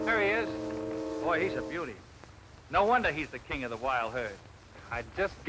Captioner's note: none